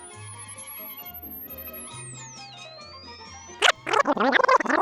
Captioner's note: squeaking